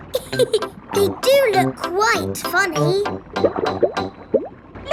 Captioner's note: laughs